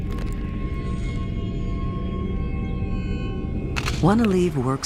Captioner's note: bones cracking; tense music